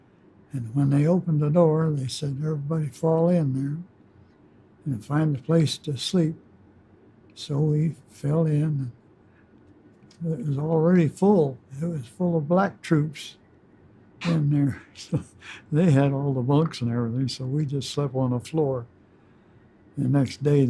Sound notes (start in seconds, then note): 14.2 chuckles